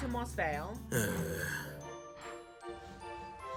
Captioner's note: groans